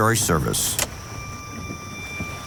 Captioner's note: switch clicking; pensive music